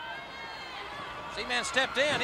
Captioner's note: crowd chatter